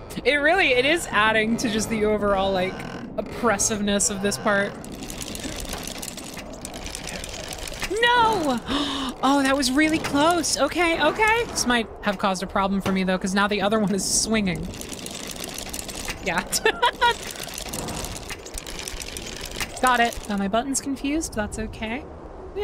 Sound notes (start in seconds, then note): 8.7 gasp; 16.4 laughter